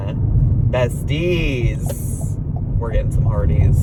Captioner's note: turn signal clicking